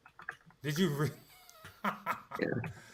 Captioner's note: laughs